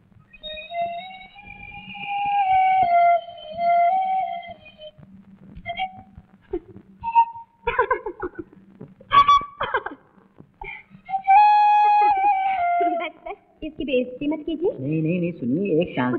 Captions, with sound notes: (Flute playing) (Laughs) (Flute playing) Enough don't degrade it. - Just give me one chance..